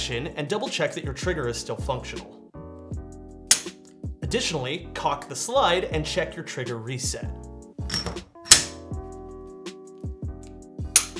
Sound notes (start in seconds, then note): 3.5 gun clicking; 8.0 gun clicking